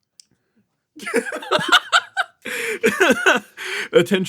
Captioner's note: laughs